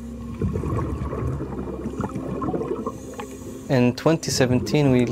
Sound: water bubbling

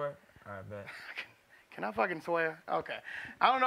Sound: laughs

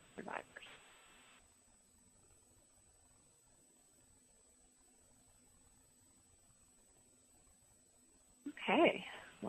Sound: pause

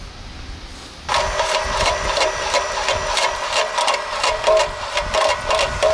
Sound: rock crusher rattling

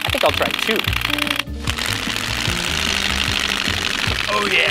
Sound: flapping louder

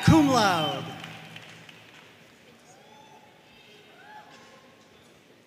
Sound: audience cheering and applauding

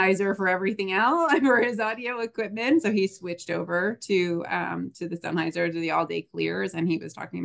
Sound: chuckles

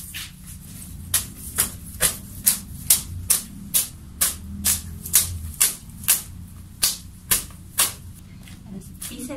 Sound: slapping

